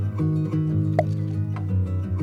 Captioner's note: pop